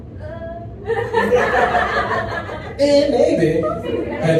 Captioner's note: audience laughs